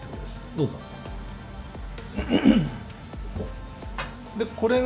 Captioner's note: laughs